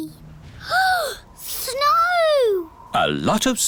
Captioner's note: gasps